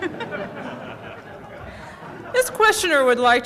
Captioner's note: laughter